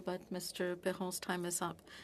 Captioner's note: speaking French